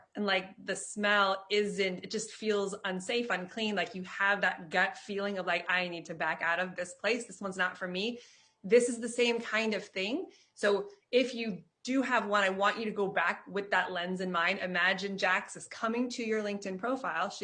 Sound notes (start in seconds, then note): none